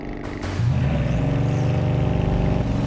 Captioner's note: engines revving